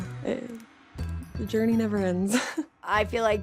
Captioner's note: chuckles